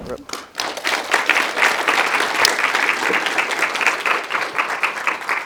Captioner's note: attendees clapping